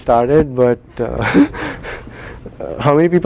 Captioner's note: laugh